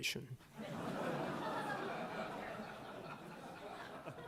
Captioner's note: laughter